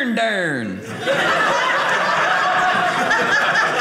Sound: audience laughing

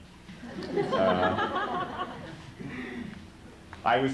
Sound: laughter

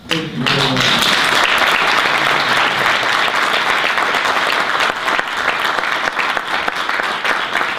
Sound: audience applause

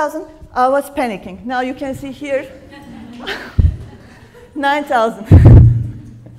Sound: laughs

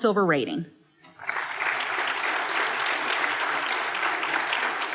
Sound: applause

